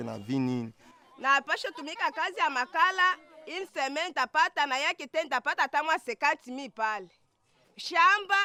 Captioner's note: local language